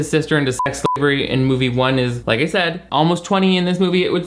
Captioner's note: beep